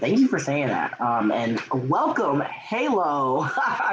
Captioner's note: laughing